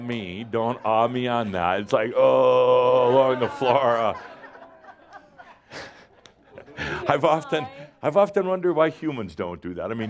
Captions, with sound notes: Don’t “ohhh” me on that. It’s like, “Ohhhh!” along the floor (more laughter). I’ve often wondered why humans don’t do that.